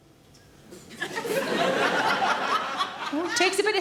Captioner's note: audience laughing